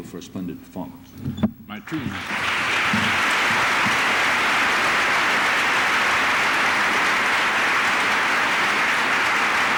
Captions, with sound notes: for a splendid performance. [APPLAUSE]